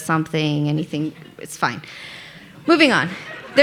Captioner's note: audience laughing